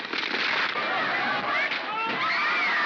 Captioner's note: wood splinters; commotion; water splashes; women scream